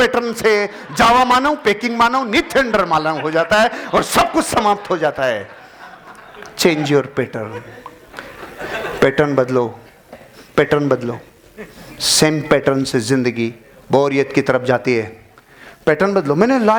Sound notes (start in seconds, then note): 5.6 laughing